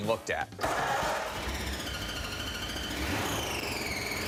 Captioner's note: engine starting